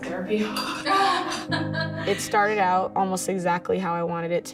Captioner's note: laughter